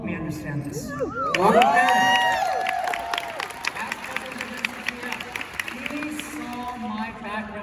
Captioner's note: applause